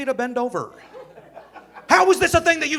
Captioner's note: audience laughing